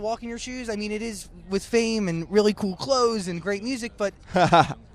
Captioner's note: laughs